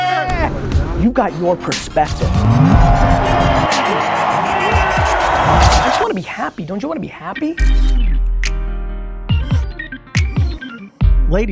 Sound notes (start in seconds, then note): 1.5 crowd cheering; 2.9 car engine reeving; 9.2 upbeat music